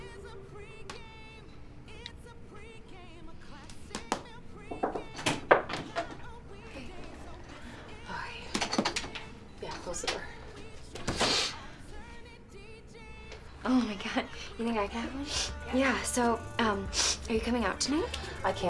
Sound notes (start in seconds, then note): 4.8 knocking on door; 10.9 Ashley sniffling over door rattling; 15.5 coughs